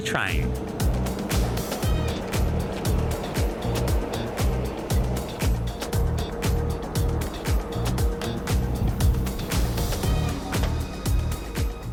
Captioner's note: train noises